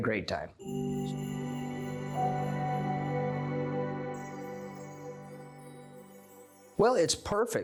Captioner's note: chime Sound